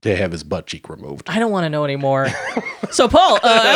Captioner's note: chuckling